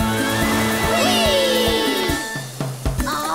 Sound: cheering

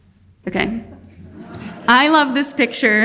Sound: audience laughing

